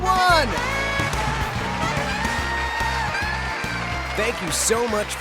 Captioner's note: audience cheers and applauds; saxophone jazz